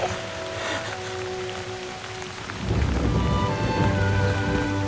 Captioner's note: thunder